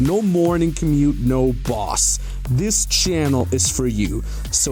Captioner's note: none